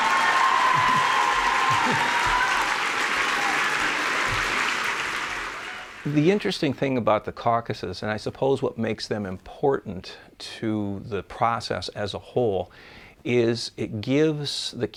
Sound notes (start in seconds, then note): 2.3 cheers and applause